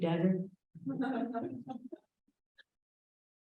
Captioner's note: laughter